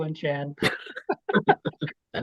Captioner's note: laughs